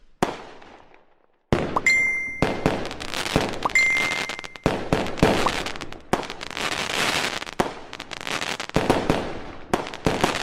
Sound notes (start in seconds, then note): 1.8 tweet notification